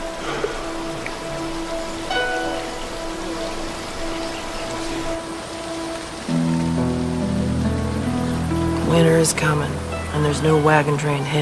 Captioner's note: sighs